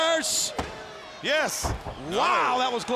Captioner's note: fans cheering; hand tapping